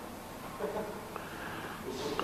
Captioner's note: Kayama laughs